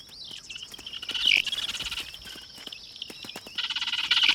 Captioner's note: squawking